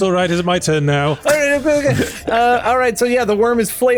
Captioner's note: makes silly noises